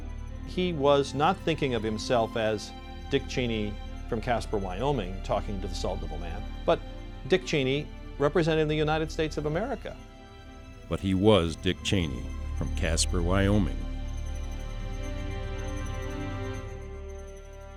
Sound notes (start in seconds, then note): 10.9 voiceover; 14.2 inspirational music